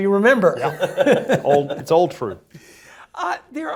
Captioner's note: laugh